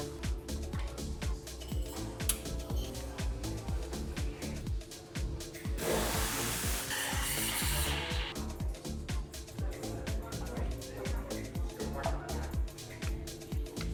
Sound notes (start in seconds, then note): 5.7 steam hissing; 9.0 lively music